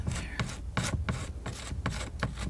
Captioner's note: scratching